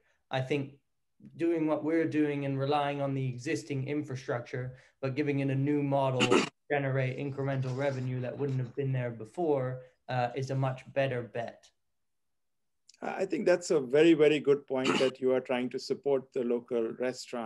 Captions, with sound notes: I think doing what we're doing and relying on the existing infrastructure, but giving in a new model,- >> [COUGH] >> Generate incremental revenue that wouldn't have been there before is a much better bet. >> I think that's a very, very good point that you are trying to support the local